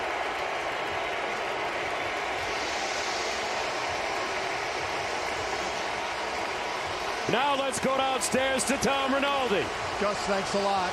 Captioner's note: cheers and applause